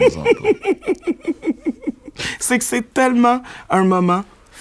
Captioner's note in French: éclat de rire